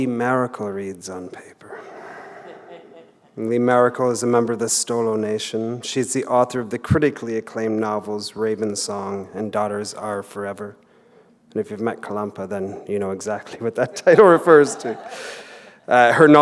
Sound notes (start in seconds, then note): 1.8 chuckle